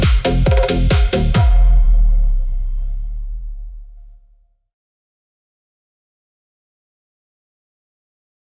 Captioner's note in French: Dernier coup de gong. Silence